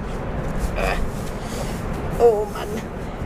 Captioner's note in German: Angestrengtes Grunzen